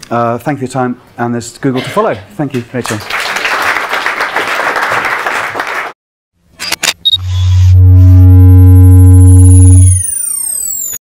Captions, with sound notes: Thank you for your time and it's good to follow. Thank you for your time. (applause) (electronic whirring)